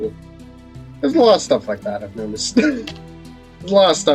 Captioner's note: laughs